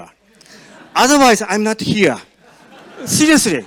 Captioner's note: audience laughs